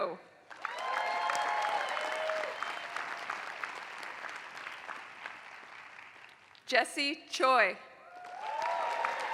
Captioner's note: applause; applause